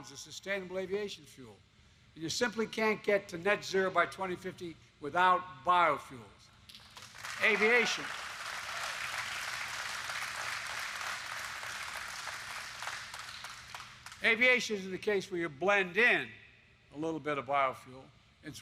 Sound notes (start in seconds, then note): 6.2 applause